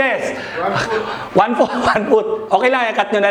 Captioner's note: laughs